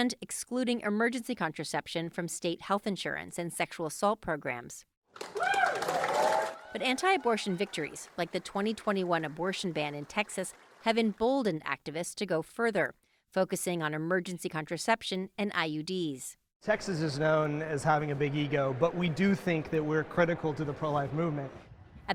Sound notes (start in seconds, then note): 5.2 cheering